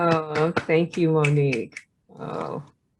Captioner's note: applause